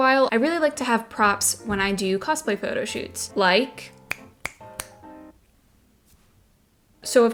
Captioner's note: snaps three times